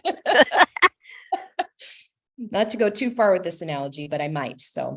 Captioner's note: laughter